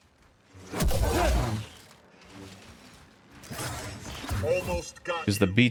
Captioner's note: gunshots